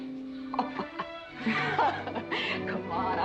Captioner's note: both laughing